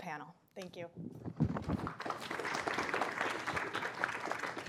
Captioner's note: applause